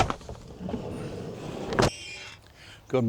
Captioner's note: door slams